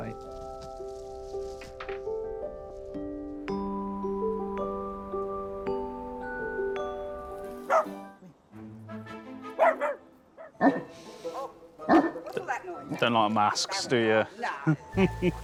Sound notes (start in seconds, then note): 2.2 gentle hopeful music; 7.7 dog barks; 8.4 playful music; 11.8 larger dog barks